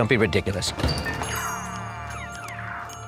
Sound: videogame noises; door jingle

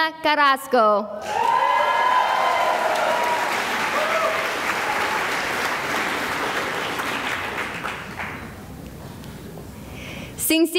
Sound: cheering and applause

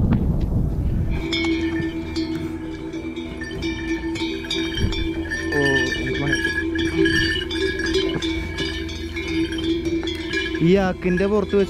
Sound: cow bells

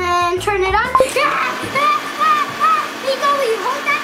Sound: blender sound and screaming

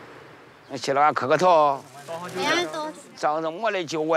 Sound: speaking Chinese

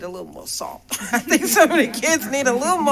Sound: laughter

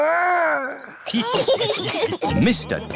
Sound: giggles; laughter

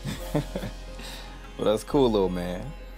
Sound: laughs

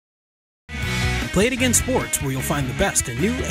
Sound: voiceover

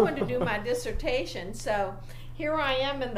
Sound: laughs

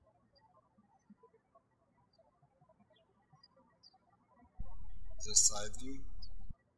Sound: birds chirping

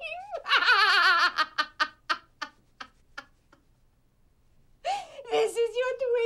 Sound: laughter

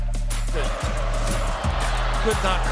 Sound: crowd cheering

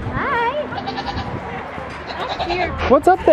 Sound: goat bleats

